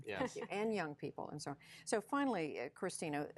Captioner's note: laughter